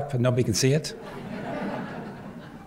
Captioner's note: laughter